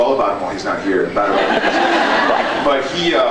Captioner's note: laughs